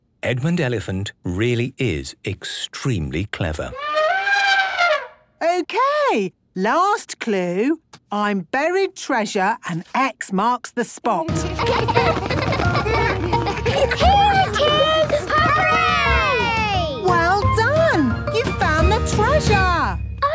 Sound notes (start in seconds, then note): 3.7 trumpeting; 11.3 laughter